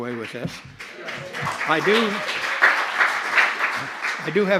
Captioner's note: applause